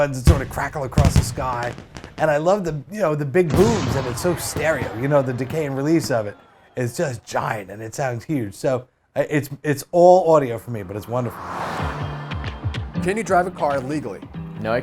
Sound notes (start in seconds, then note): 0.0 fireworks banging; 3.6 crowd gasping in awe; 10.3 car driving; 11.8 upbeat music